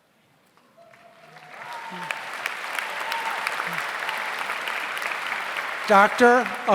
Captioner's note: audience applauds; audience cheers